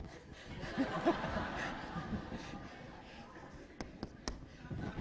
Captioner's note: laughter